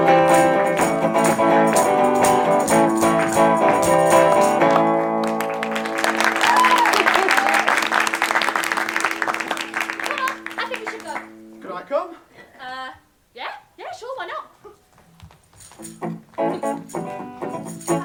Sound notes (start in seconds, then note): 4.6 applause